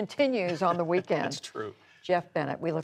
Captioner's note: laughter